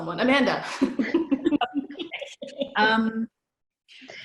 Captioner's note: laughter